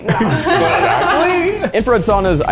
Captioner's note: lady laughs